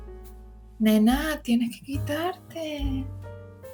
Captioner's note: spanish